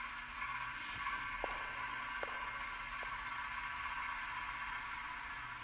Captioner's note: footsteps tapping